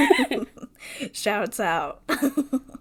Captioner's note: laughs